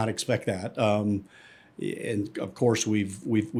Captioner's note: inhales